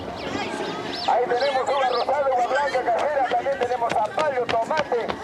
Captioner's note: Spanish spoken audio